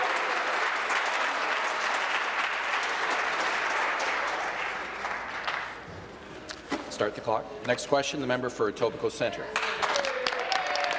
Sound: applause

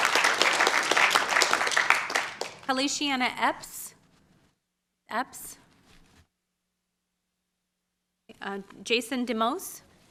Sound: applause

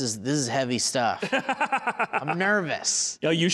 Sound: laughing

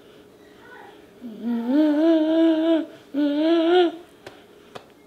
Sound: humming

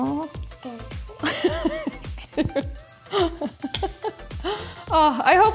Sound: laughs

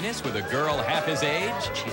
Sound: audience whooos

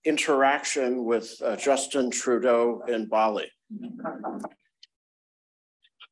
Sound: chuckles

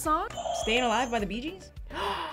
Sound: buzzer rings; gasps

